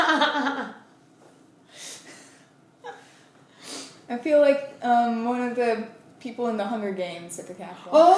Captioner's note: laughter